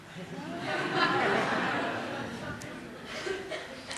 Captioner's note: laughter